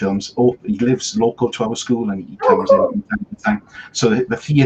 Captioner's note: voice fades